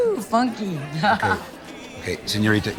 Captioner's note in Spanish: Risas